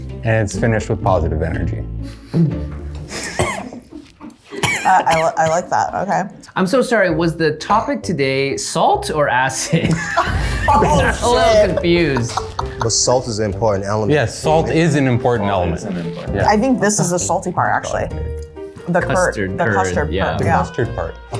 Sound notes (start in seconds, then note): 2.2 laughing; 9.7 everyone laughs; 13.9 women laughing